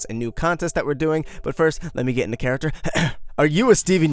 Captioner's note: coughs